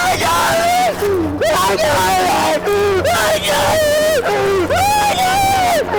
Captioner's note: loud screaming; screaming